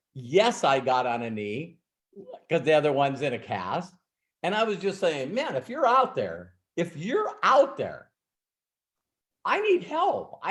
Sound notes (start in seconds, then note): none